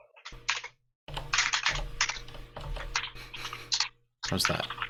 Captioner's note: keyboard keys clanking